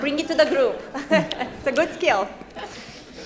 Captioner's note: laughs